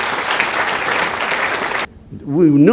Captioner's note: applause